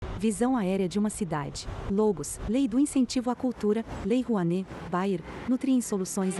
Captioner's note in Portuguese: Ruídos urbanos